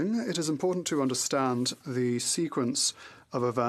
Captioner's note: speaking French